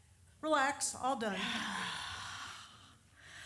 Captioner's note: deep sigh